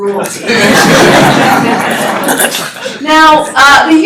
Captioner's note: laughter